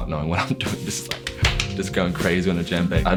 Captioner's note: claps